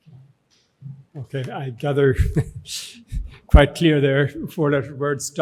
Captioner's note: chuckles